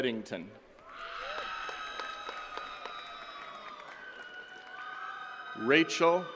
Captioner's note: attendees cheering and clapping